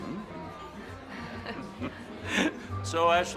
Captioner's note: all chuckling